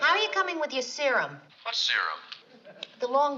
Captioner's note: on phone